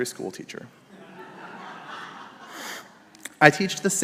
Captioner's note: congregation laughs